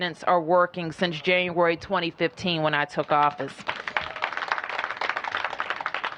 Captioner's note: applause